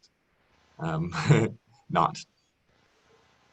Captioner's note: laughs